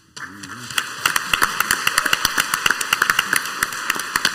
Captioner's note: crowd applauds